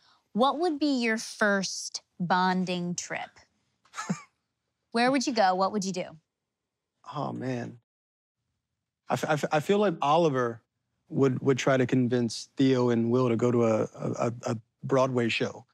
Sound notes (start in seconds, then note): 3.9 chuckles